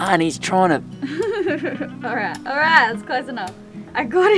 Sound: laughing

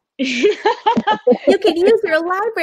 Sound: laughing

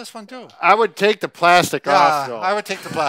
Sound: laughs

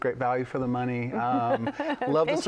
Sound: laughs

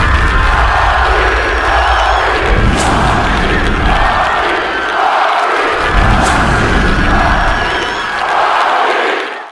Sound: Rocky Chants continuing

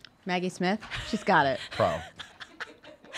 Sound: laughing

